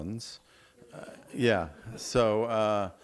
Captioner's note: audience laughing